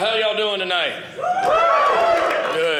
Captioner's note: audience cheering